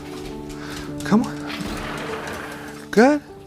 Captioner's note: door slides